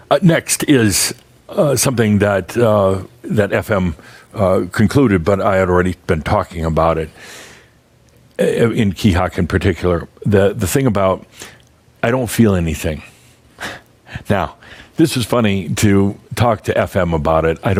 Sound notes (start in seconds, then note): 13.6 Adamus chuckles